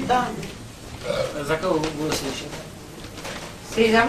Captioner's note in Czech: říhnutí